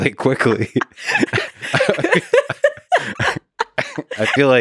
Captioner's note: both laughing